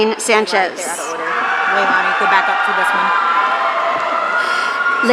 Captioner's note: audience cheering